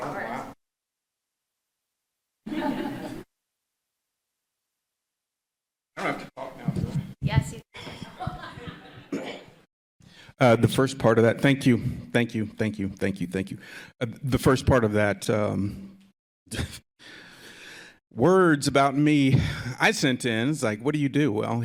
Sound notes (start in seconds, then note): 2.4 group chuckling